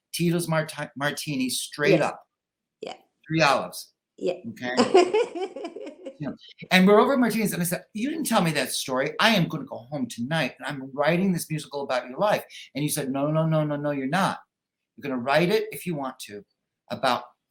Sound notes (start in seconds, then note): 4.6 laughing